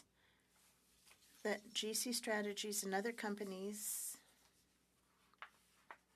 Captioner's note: speaking French